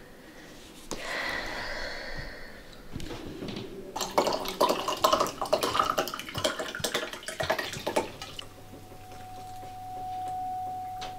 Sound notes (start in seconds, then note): 1.0 breathes out loudly